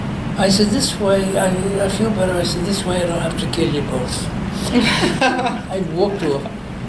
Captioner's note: everybody laughs